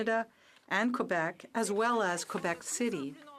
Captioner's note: speaking french